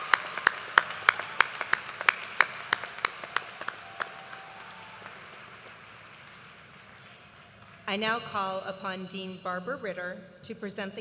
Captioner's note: applause